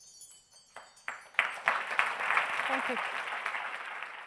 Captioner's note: soft chimes; audience applause